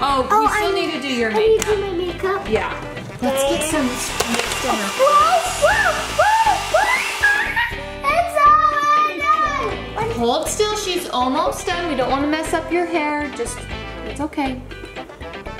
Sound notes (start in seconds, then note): 5.0 blow dryer whirring